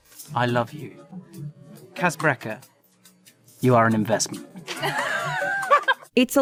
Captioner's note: giggles